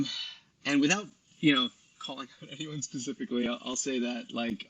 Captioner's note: chuckles